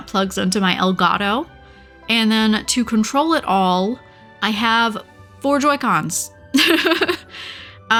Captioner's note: laughs